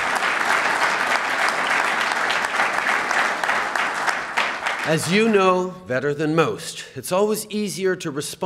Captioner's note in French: Applaudissements